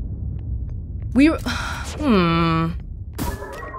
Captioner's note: sigh